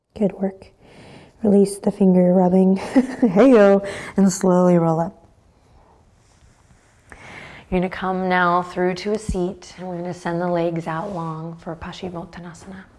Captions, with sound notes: Good work. Release the finger rubbing. (laughs) Hey yo! And slowly roll up. You're gonna come now through to a seat. We're gonna send the legs out long for Paschimottanasana.